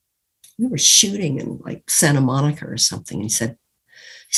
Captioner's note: imitating Pierce